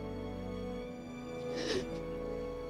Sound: crying

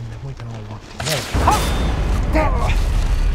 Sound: twig snapping

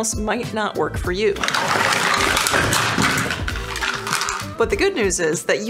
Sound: holsters clattering

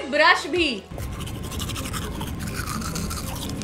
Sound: teeth scrubbing noises

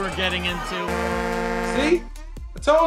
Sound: ship horn honks

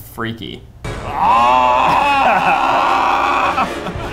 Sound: screaming

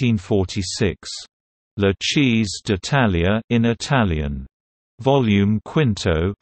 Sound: in Italian

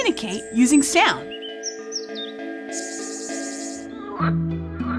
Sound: bird calling, cicada buzzing, frog croaking; angry duck honk

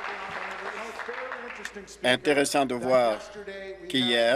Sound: applause

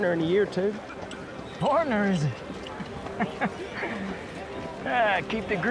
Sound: laughs

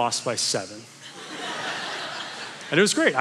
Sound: congregation laughing

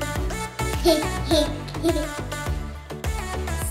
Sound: laughs

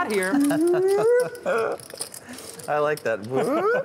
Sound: whooping

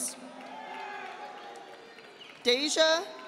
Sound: audience applauding

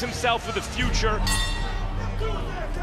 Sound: bell dings

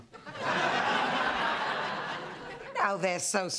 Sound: laughter

